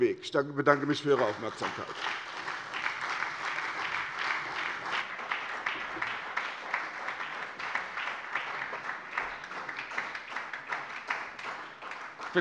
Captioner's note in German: Beifall bei der SPD